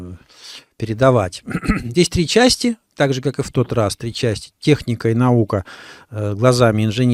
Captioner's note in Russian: откашливается